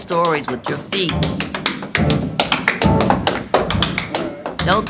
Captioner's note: rhythmic tapping